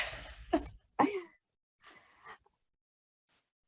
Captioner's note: laughs